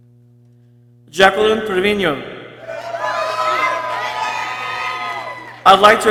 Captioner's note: people cheering